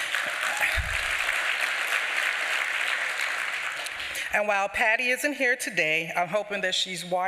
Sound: applause

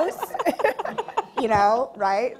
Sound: laughing

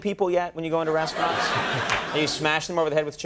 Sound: audience laughing

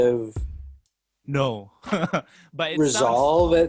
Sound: laughs

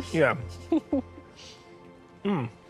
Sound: laughs

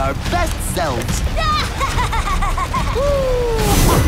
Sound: laughs

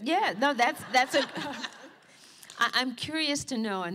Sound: laughter

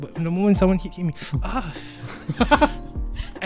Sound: ssS!

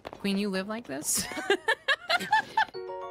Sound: laughter

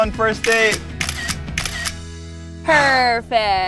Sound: camera snapping

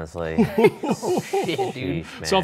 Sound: Professor and Ryan laugh

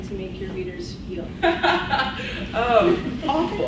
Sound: laughs

